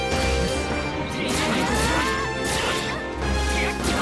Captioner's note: yelling